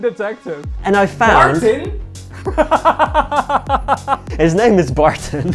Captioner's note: laughing